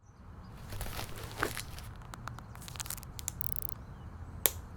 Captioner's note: velcro crunches